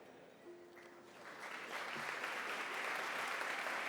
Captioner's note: applause